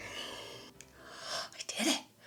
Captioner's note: angry cartoon growl; prolonged groan; ANGRY CARTOONY VOICE: Forgot that one part again!; gasp